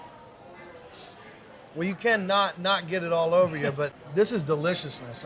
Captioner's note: sniffing